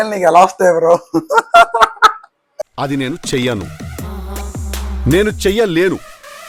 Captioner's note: laughter